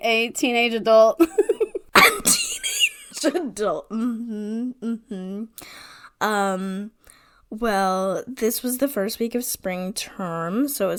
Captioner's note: wheeze laughing